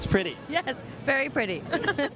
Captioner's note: laughs